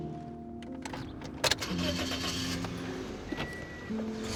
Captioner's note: engine starting; soft piano music